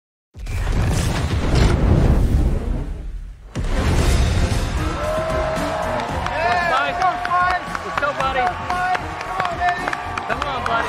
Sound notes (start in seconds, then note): 4.8 cheering; 5.0 overlapping shouts